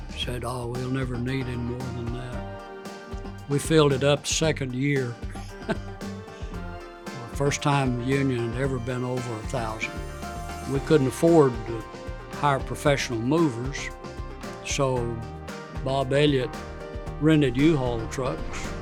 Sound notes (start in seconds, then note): 5.0 chuckling